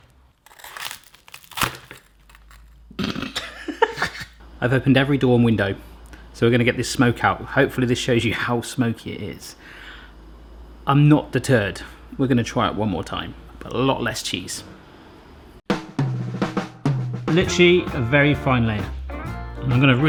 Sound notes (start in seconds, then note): 0.0 toast crunching; 3.1 scoffs